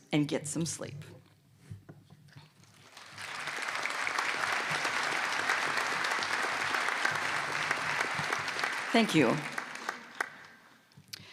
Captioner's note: applause